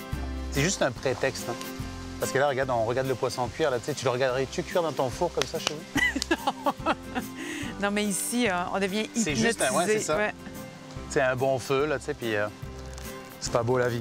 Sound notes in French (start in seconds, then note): 5.9 rires